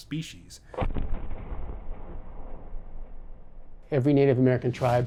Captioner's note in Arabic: دوي مدوي